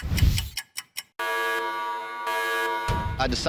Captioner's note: ticking; alarm blaring